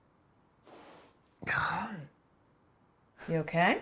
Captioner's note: professor sighs